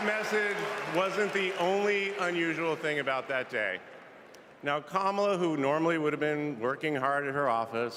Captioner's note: cheers and applause